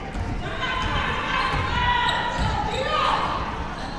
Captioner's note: players shouting